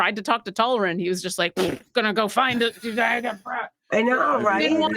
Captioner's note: lips buzzing